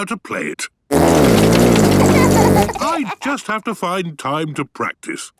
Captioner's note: laughter